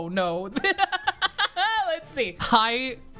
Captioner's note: laughing